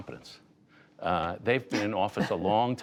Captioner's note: laughter